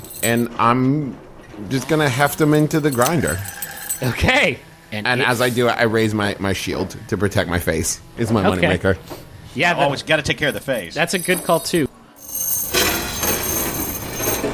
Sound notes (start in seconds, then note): 3.8 grinder churning; 12.2 metal clanging, chains spinning